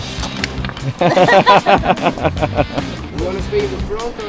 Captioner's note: laugh